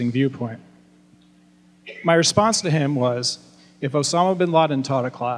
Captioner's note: none